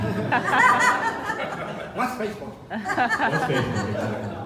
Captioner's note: laughter